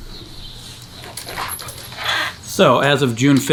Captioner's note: chains rattling